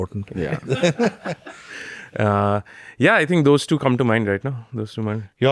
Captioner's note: laughs